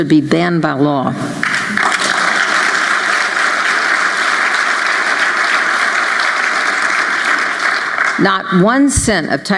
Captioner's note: applause